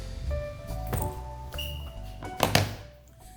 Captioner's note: bag thuds; laptop thumping